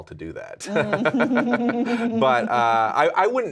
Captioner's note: laughing